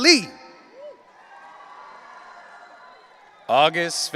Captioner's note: audience cheering